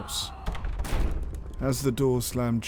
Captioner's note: door slams